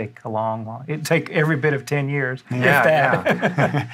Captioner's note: laughs